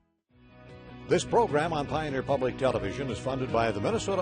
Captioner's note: voiceover